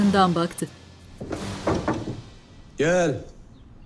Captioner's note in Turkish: Kapı vurulma sesi